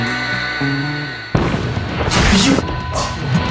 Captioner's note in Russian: взрыв